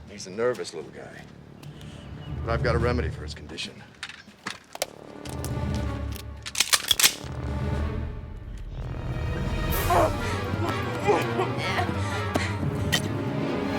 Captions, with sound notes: He's a nervous little guy. I've got a remedy for his condition. (dramatic music) (gun cocks) (dramatic music) (grunting)